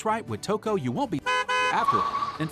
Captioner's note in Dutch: honk, honk